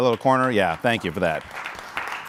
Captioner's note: applause